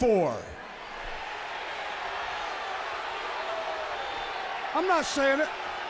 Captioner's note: crowd chatter